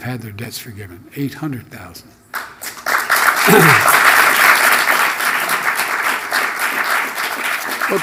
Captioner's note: applause